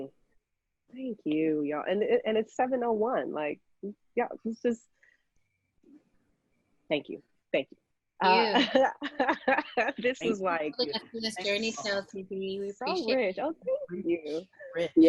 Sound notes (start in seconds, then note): 8.5 laughing